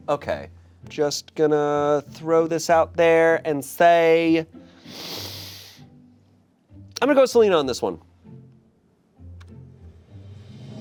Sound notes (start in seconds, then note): 4.6 inhaling